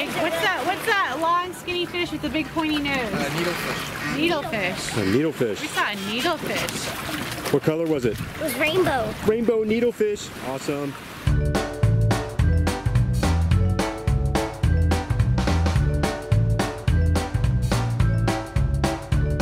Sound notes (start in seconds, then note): 3.6 voiceover; 7.8 voiceover; 11.2 tropical music